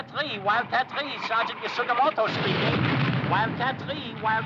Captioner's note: bomb exploding